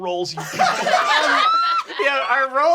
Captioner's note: laughter